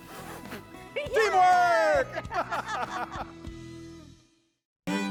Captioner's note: both laughing